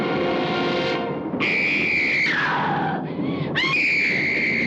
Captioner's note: screaming